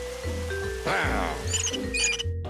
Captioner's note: knobs squeaking